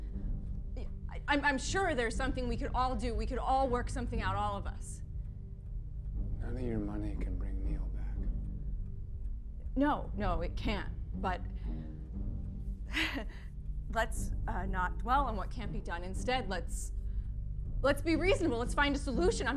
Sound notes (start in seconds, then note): 13.0 chuckling